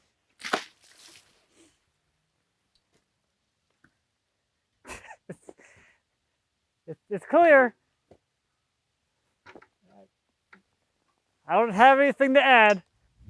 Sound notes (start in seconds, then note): 0.4 water splashing; 4.8 laughing